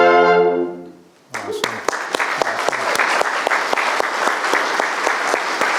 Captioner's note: audience applauding